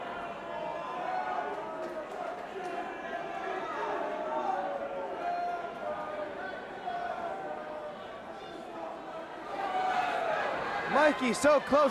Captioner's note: crowd chatter